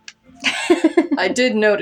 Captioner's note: laugh